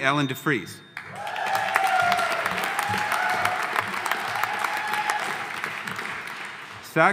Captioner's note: audience applauding; audience cheering